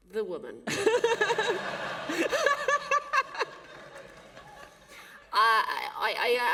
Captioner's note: laughter